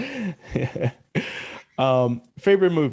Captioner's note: laughing